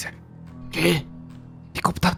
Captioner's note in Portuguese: Sussurando